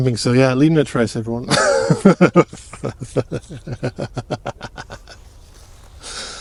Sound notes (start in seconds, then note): 4.7 laughs